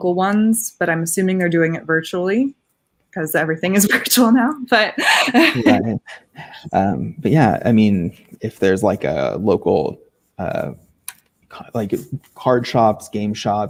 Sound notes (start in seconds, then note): 4.9 laughing